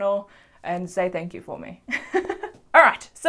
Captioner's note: laughs